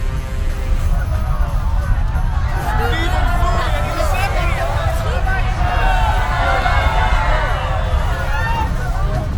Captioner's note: agitated screaming and menacing music